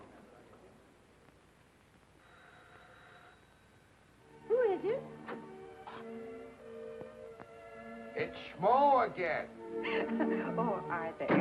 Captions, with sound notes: (doorbell ringing) (romantic music) - Who is it? - It's Schmo again. (Mary laughing) - Oh, Arthur.